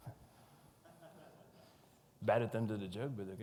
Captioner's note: audience chuckles